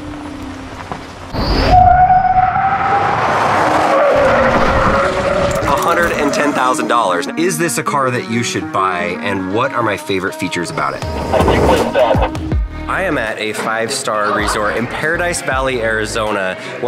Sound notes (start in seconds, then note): 0.2 tires screeching; 11.2 radio voice